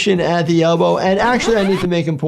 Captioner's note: record scratching